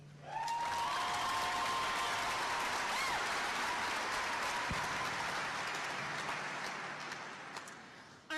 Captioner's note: applause